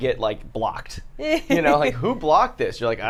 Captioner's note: laughs